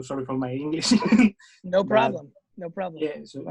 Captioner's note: laughing